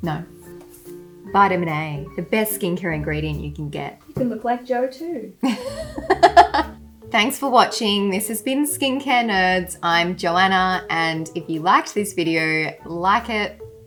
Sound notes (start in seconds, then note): 5.4 laughs